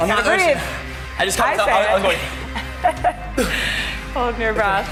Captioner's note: grunts